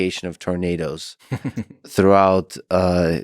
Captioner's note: Tim laughs